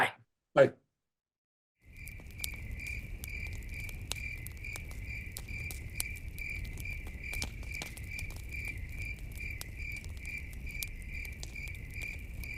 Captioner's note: crickets chirping and campfire crackling sounds